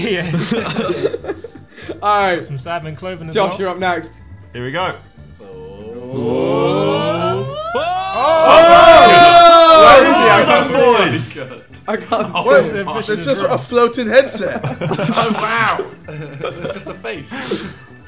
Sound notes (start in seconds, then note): 0.2 laughing; 5.8 group oohing in anticipation; 7.8 group exclaims in surprise